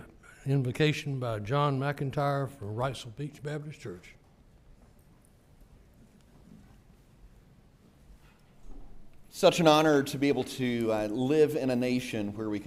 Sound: gavel

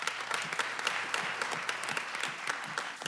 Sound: applause

